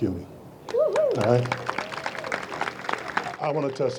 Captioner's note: audience applauds